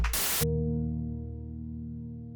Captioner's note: Static